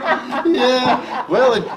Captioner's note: laughing